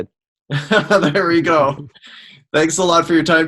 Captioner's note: laughs